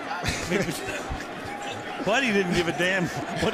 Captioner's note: laughs